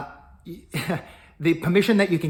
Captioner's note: chuckling